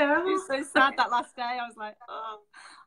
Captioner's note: moans